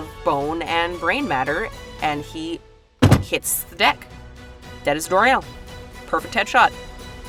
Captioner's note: thud